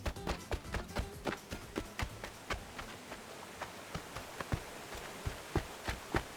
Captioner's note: the sound of a distant, roaring river fades in